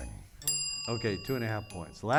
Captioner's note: bell dings